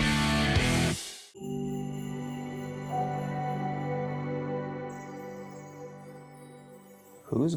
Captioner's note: chime Sound